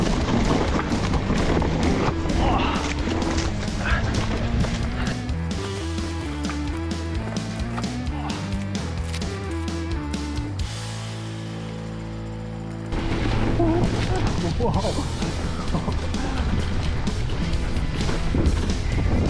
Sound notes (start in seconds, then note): 0.2 bike crashing; 1.8 grunting; 5.0 upbeat music; 13.3 bike crashing